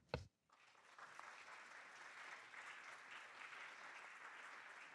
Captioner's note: audience clapping